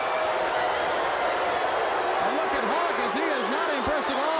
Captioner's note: crowd cheering